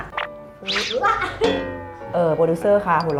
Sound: effect sound; เสียงเอฟเฟกต์

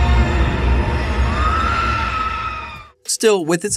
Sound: screaming

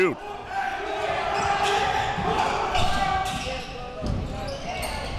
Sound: crowd cheering

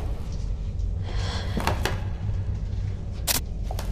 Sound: floorboard creaks; static noises

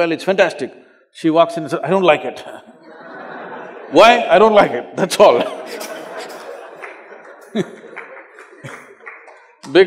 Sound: laughter

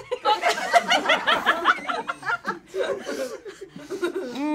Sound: audience laughs

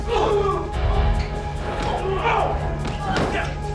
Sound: grunting in pain

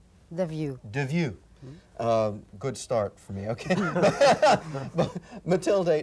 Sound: laughing

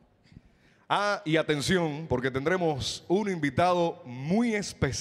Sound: MC speaking in Spanish

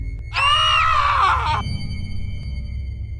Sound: scream

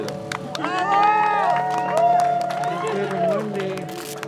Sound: cheering

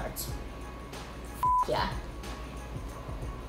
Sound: beep

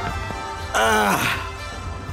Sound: sighs

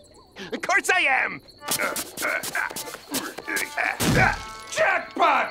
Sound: grunting

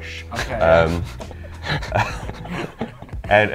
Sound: laughing

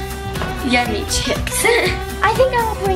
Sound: laughs

